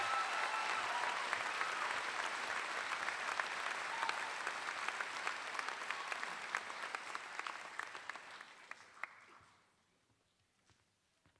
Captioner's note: applause